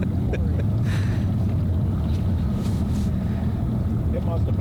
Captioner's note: engine rumbles; laughs